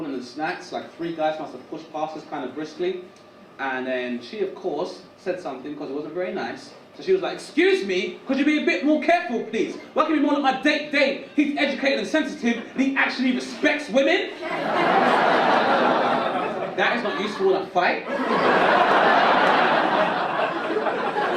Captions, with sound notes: and the snacks, like three guys tried to push past us kind of briskly, and she of course, said something, 'cause it wasn't very nice. So she was like, excuse me, could you be a bit more careful, please? Why can't you be more like my date, Dane? He's educated and sensitive, and he actually respects women. (audience laugh) That is not useful in a fight. (audience laugh)